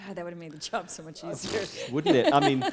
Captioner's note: laughter